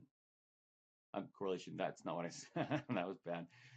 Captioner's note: laughs